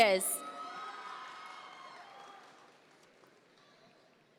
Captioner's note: audience members cheer